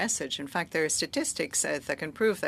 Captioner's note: speaking French